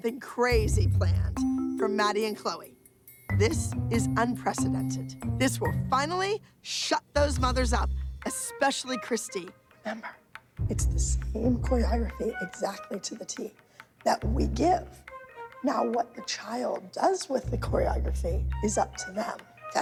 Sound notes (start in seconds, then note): 9.0 whispering